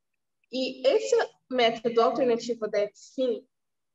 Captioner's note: speaking portuguese